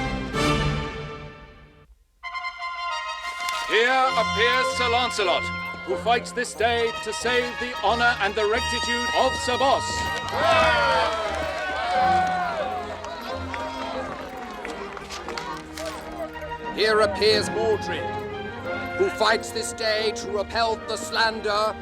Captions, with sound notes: [trumpet fanfare] HERE APPEARS SIR LANCELOT, WHO FIGHTS THIS DAY TO SAVE THE HONOR AND THE RECTITUDE OF SIR BOSS. [crowd cheers] HERE APPEARS MORDRED,